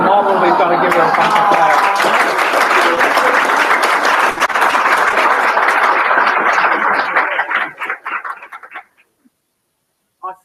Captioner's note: laugh; applause